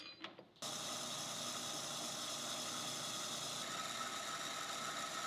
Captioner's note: machinery whirring